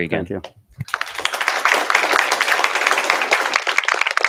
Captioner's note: applause